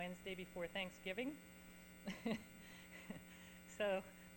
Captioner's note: chuckles